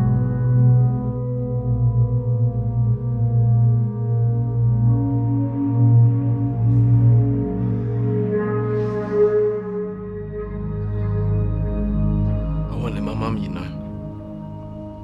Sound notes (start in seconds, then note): none